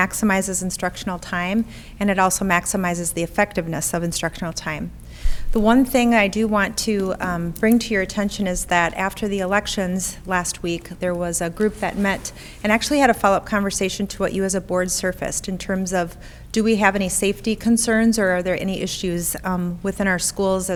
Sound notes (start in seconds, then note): none